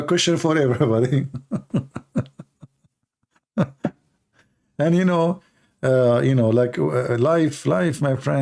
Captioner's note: Ketawa